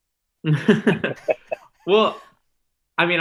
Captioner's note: laughing